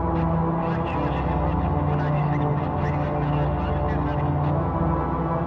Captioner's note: muffled radio chatter